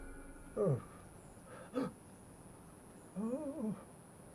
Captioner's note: man groaning